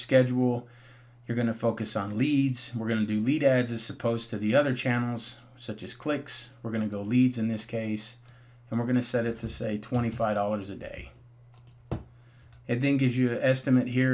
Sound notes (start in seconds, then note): 11.5 mouse clicking